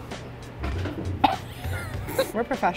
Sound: coughs

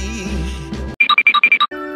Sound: cartoon tip toe noises

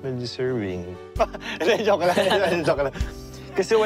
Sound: chuckles; laughs

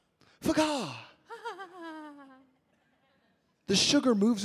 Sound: chuckles

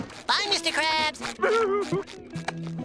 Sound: sobbing

